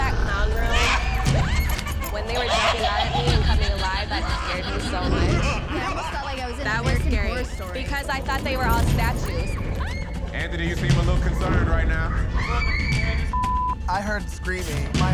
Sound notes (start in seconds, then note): 10.3 screams; 13.3 beep